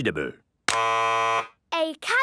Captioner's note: buzzes